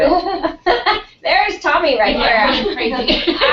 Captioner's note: laugh